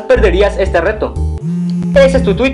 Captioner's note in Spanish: celular vibrando